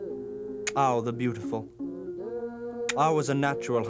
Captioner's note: non-english speech